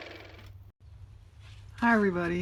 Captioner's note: car motor